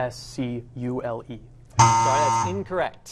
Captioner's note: error buzzer